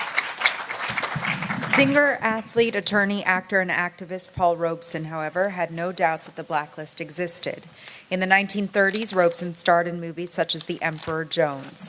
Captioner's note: applause